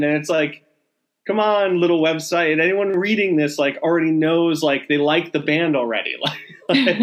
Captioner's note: laughing